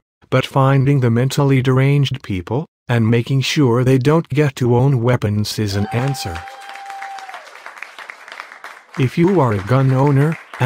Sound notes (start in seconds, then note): 5.7 crowd cheering